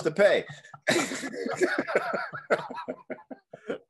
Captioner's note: laughing